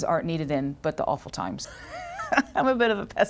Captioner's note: laughter